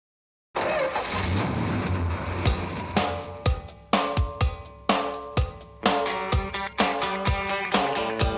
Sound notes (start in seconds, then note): 1.0 car engine revving